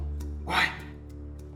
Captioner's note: whisper; whispering